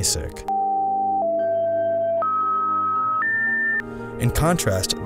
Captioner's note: tones beeping